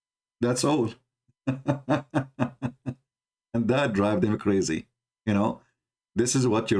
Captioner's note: Ketawa